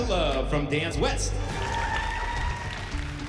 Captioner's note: crowd cheering